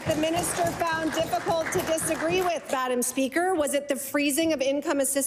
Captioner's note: applause